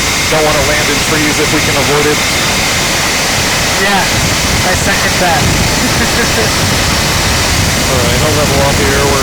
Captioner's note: laugh